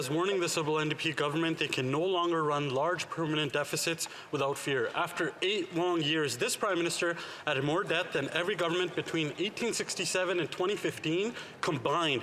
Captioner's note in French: voix de l'interprète